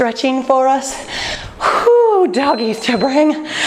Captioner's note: timer beeping